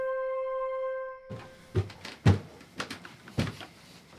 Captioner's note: sound of somebody walking up stairs